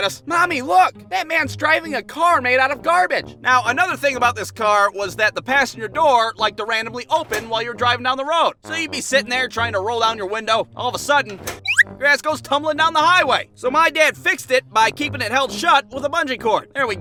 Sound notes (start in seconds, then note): 11.6 falls out with whistling sound